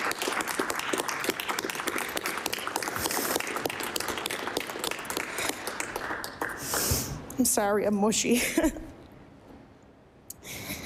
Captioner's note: applause